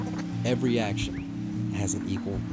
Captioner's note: voiceover